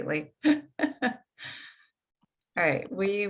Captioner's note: laughs